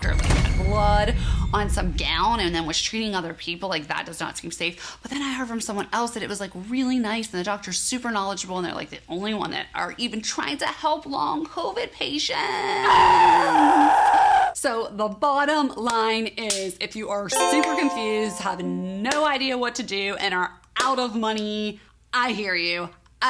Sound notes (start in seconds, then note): 0.0 scary music; 12.7 person screaming; 15.9 hands clapping; 17.3 chime tinkling